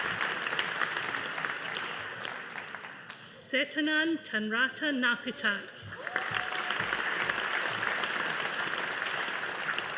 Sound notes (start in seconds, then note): 0.0 audience applauding; 5.9 audience applauding